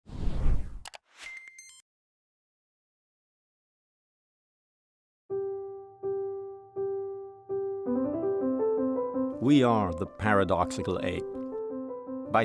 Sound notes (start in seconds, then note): 0.0 whooshing; 0.8 clicks; 5.3 soft music